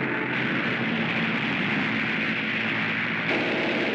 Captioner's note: airplane rumbles; machine gun fires